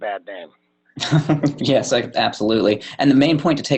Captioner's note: chuckle